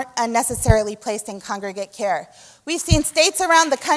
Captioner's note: applause